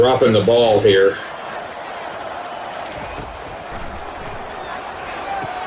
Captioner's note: crowd Noises